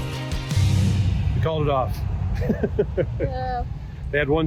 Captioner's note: laughs